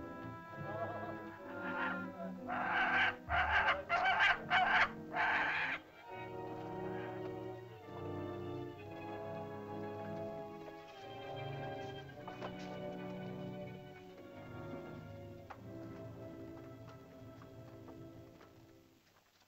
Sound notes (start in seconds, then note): 0.0 soft dramatic music; 1.4 vultures squawk; 6.0 soft dramatic music; 19.2 soft dramatic music